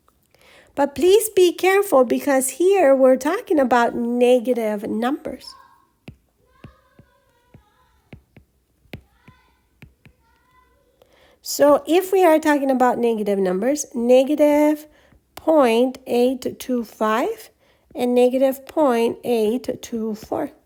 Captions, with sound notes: But please be careful because here we're talking about negative numbers. [ Background Talking and Writing Sounds ] So if we are talking about negative numbers, negative .825 and negative .824.